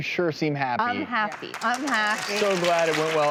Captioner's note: applause